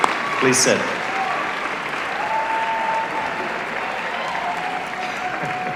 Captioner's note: applause